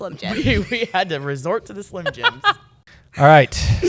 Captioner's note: laughs